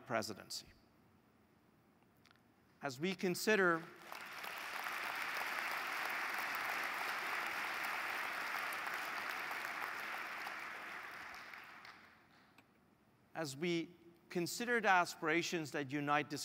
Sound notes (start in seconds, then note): 3.7 applause